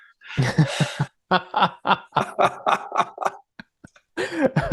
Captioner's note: both laughing heartily